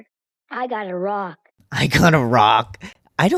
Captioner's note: laugh